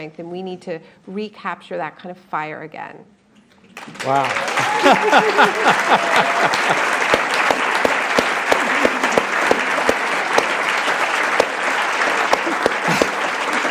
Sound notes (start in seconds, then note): 4.6 applause, cheering